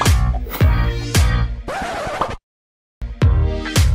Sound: record scratch

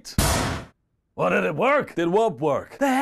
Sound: Triple H hits his head on the locker door

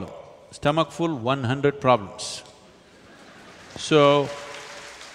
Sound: applause

